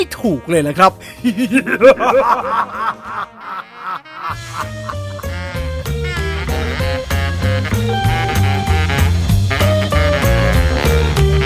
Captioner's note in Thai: เสียงหัวเราะ